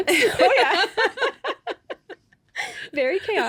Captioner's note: laughing